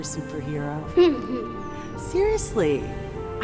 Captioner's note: Bryan laughs